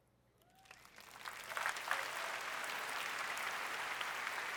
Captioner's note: applause